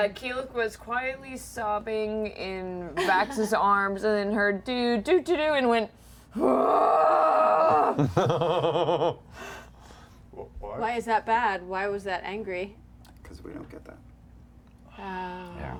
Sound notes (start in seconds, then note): 6.4 angry roar